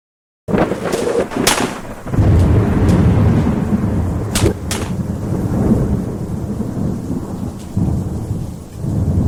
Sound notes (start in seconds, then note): 1.7 rain pattering; 1.7 thunder clapping